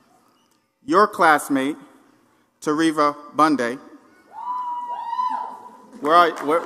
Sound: applause

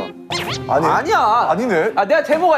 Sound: laugh

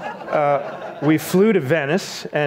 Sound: audience laughs

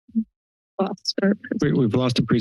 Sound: static sound

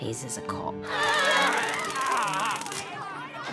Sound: screaming

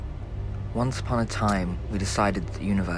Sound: male Voice

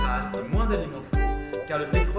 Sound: French

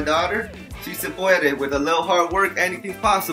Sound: speaks in foreign language

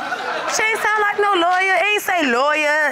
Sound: audience laughing

